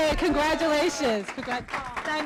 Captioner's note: applause